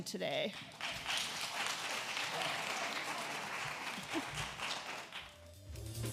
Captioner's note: applause